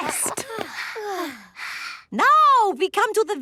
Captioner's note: panting